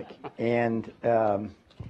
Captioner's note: laughter